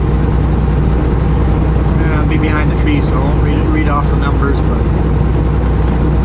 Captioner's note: train